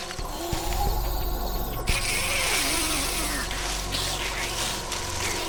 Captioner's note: child zombie snarling